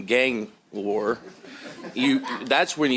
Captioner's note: laughter